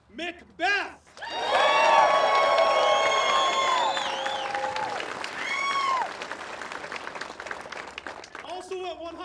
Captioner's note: applause